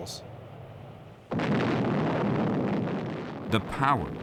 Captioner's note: explosion